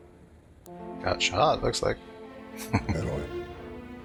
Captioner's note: chuckling